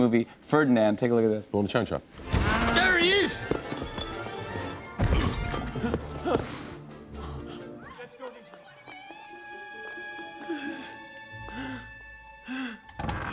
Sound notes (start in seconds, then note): 1.7 grunts; 4.6 grunts, panting; 10.4 breathing heavily; 13.0 door creaks, thuds